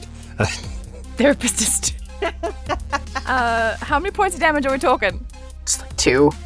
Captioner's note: laughs